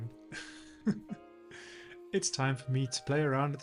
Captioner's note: laughs